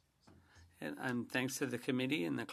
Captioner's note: speaking French